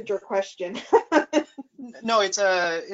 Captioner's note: laughs